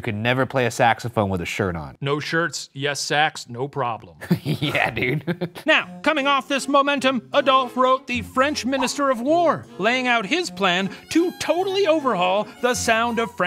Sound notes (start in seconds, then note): 4.2 laughs